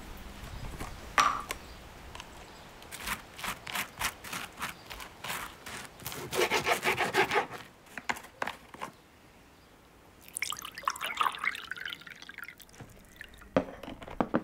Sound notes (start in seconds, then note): 1.0 popping sound; 2.8 scratching sound; 6.4 sound of knife cutting on a chopping board; 10.2 sound of water pouring